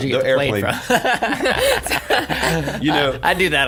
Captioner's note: laughing